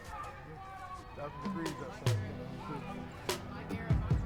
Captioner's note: background chatter; upbeat music